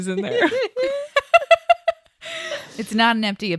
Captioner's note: everyone laughs